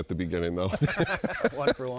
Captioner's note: both laughing